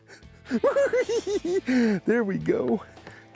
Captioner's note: cackling